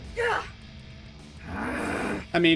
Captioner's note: Roxy grunts in pain; Angry Roxy noises